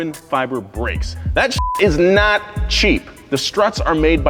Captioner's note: beep